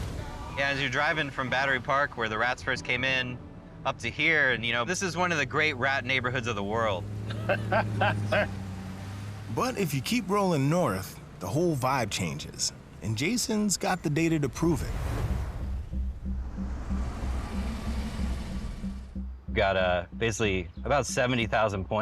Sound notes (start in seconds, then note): 7.2 laughs; 15.6 soft, tense music